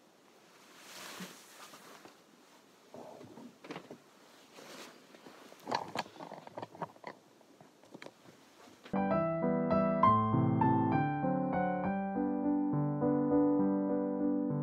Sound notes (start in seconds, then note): 6.4 camera adjusting